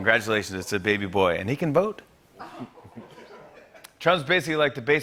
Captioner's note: laughter